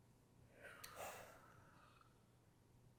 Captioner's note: sigh